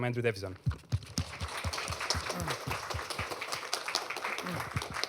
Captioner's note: applause